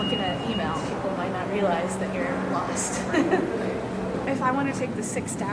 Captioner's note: laughs